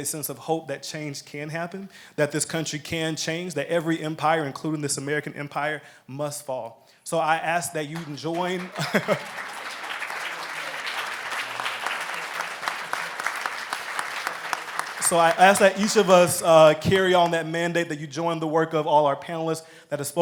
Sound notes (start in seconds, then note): 6.4 applause; 9.6 laughs